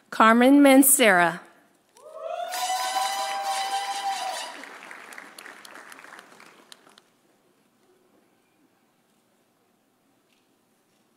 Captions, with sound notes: Carmen Mancera. (audience cheering) (audience applauding)